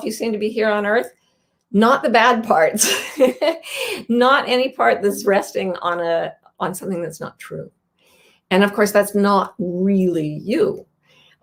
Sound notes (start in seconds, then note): 3.3 laughs